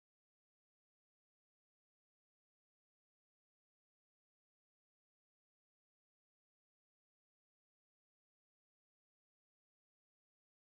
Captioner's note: static Buzzing